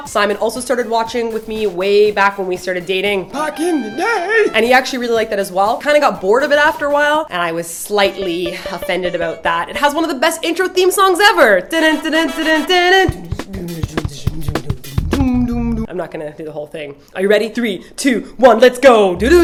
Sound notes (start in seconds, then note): 3.2 old man voice; 12.0 she hums theme